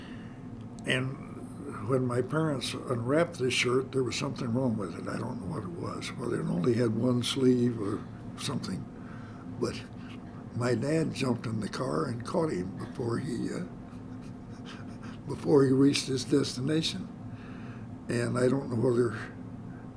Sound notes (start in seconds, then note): 13.9 laughs